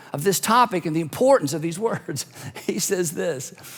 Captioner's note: chuckles